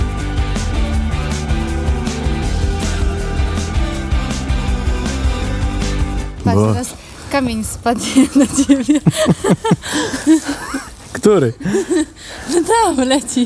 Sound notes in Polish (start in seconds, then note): 4.1 śmiech